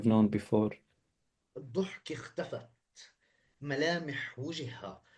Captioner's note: speaking arabic